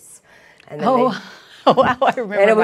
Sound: laughing

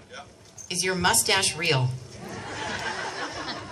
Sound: crowd laughs

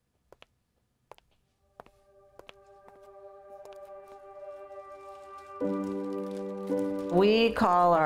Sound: footsteps

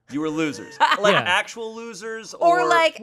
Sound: laughing

